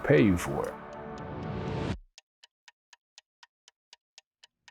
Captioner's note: clock ticking